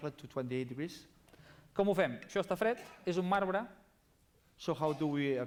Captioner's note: non-english speech